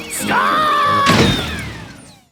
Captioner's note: thuds